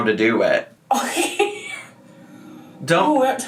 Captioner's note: laughing